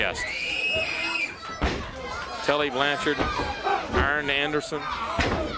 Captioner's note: crowd chatter